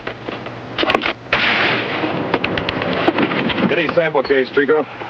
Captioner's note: gunfire pops